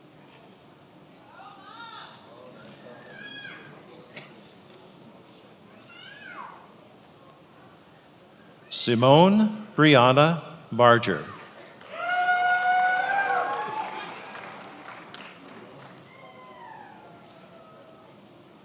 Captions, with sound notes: Simone Brianna Barger. (attendees applauding and cheering)